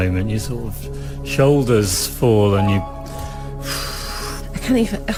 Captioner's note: imitación de suspiro profundo